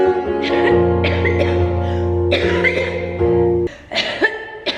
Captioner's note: coughing; coughing continues